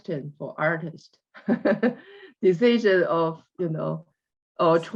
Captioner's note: laughs